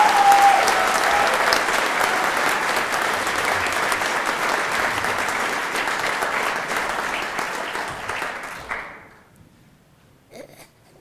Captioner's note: applause